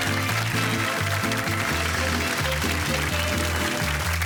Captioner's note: applause